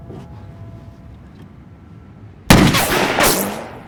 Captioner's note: gunshots